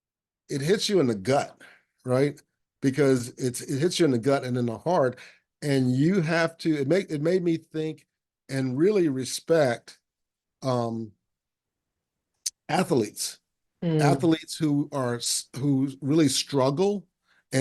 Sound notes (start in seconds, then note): none